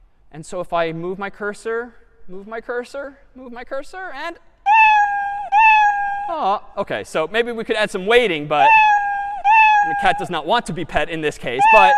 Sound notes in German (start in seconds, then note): 4.6 meowing